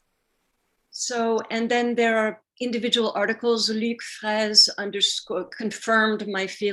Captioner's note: speaking french